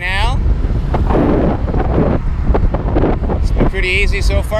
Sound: wind whipping

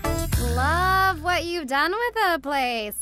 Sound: none

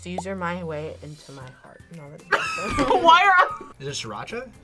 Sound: laughs

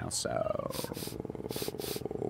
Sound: sniffs

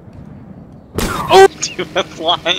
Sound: crash

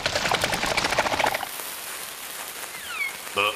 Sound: liquid ripples; TNT sizzles

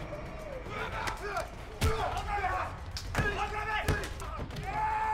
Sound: speaking in Spanish

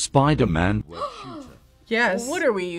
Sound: gasps

